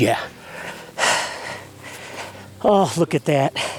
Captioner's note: breathing deeply